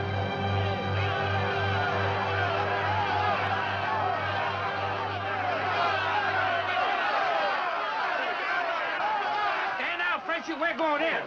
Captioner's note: angry men shouting